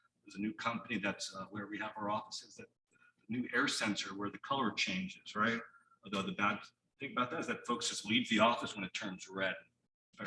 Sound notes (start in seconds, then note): none